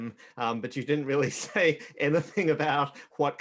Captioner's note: chuckles